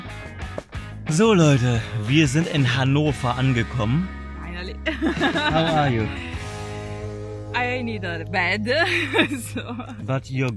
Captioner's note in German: gelächter